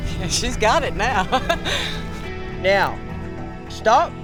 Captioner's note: laugh